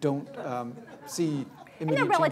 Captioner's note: laughter